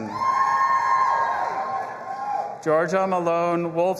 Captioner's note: audience applauding and cheering